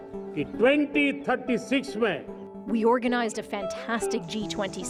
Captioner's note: speaking alternate language